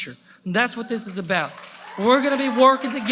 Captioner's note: applause